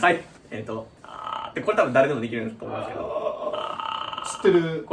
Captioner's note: arghh